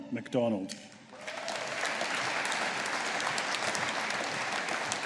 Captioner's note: audience applauding